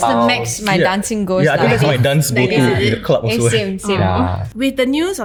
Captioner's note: continuous chatter